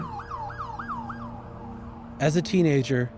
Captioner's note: siren wailing